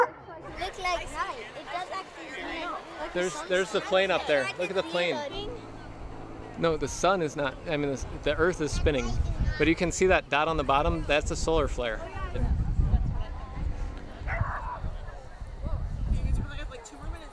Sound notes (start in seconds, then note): 4.1 indistinct airplane lol; 14.2 dog barking